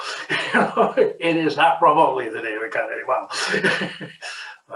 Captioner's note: laughs